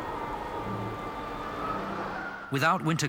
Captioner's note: stirring symphonic music continues; wind howling